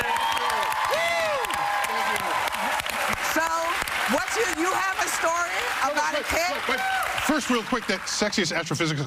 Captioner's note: cheers and applause